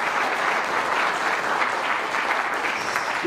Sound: audience claps

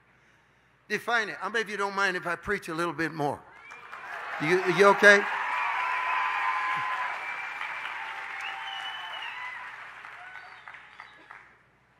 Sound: congregation cheers

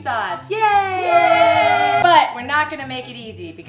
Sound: cheering

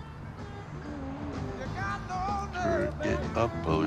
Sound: radio playing

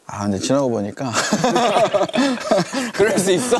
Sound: haha

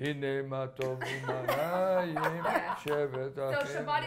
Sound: laughter

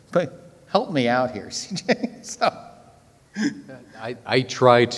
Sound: laughs

